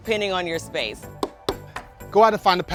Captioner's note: hammer tapping